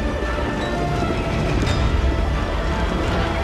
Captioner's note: horses galloping